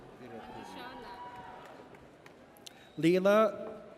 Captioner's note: audience cheers